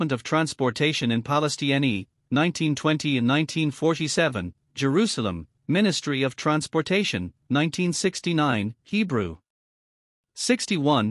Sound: Hebrew

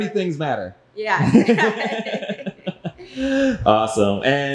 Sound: both laughing

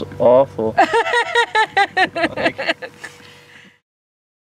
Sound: laughing

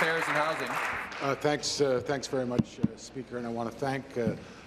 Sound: applause

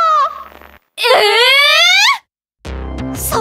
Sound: anime noises

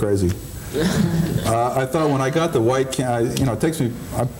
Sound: laughing

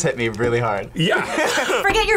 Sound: both laugh

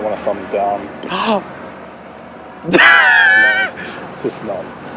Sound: gasps

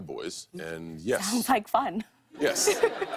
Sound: laughter

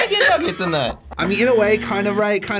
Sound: buzzer buzzing

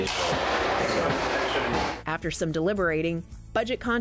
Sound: banging

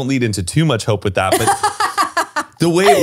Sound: laughs

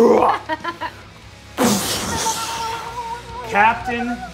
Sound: laughing

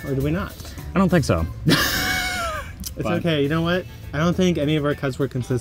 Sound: laughs

